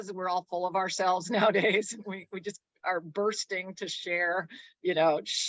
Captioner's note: chuckles